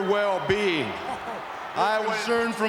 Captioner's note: chuckles